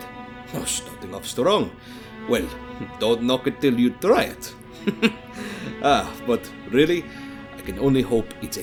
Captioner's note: chuckles